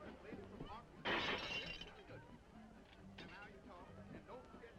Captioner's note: glass breaking